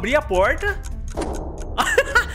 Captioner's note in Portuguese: risos